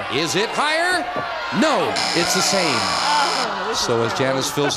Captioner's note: buzzer